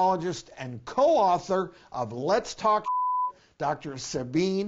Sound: beep

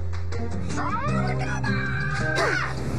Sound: shouts

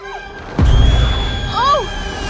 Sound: Fru Fru Screaming

